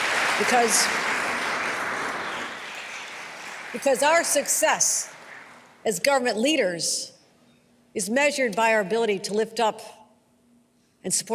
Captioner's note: applause